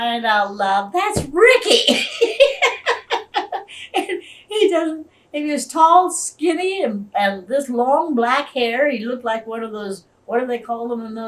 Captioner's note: laughs